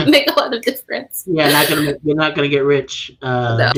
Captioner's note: laughing